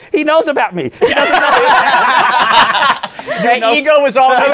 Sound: laughter

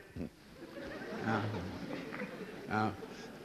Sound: laughter

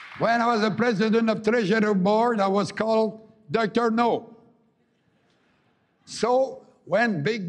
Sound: applause

